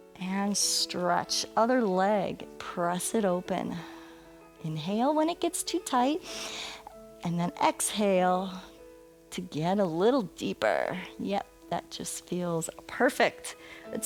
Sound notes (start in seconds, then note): 6.2 inhales